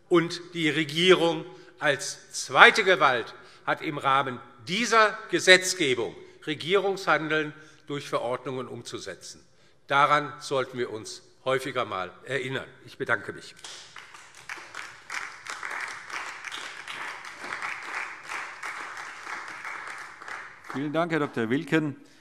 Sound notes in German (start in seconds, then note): 13.6 Beifall DIE LINKE und vereinzelt SPD